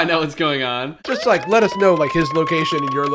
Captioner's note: siren